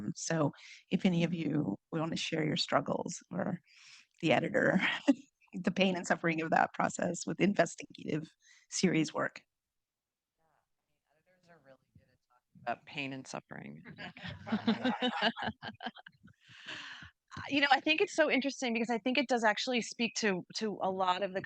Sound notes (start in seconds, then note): 14.0 audience laughing